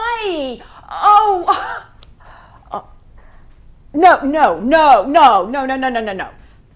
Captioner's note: she laughs